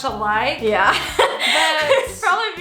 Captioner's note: laughs